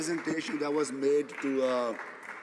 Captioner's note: some Applause